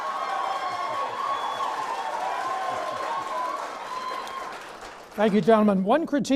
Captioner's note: clapping